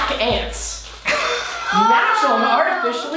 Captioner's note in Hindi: हंसते हुए